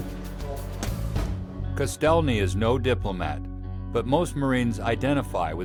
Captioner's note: voiceover